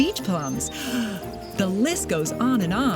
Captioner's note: breathes in